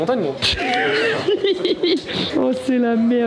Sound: laugh

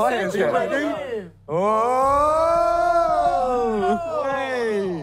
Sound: cheering

